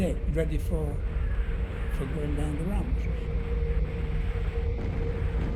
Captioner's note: explosions booming